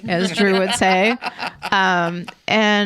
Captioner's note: laughing